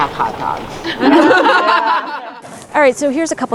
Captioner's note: group laughs